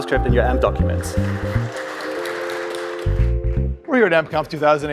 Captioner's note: applause